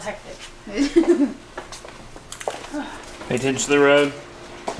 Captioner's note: laughs